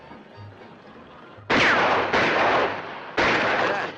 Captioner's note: firing